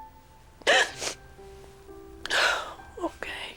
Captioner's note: sobs